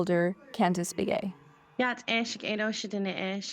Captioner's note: faintly speaking